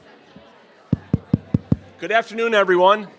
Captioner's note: crowd speaking quietly; tapping